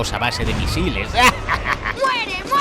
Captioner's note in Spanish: risa maniaca